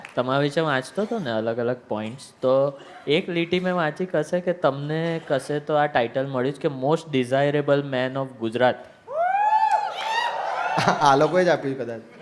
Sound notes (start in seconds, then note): 9.6 crowd applauding